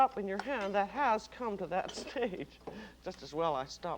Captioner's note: chuckles